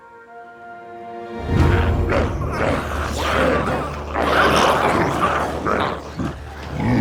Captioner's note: gentle music; dramatic music; glowzies growling